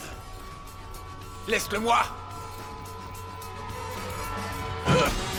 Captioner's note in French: gangster parlant une langue étrangère